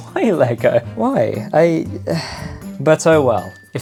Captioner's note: sigh